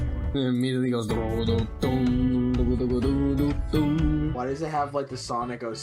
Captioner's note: stock outro music; mimics stock outro music